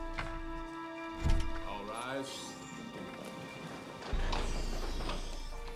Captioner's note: door opens